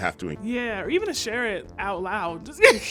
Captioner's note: laughing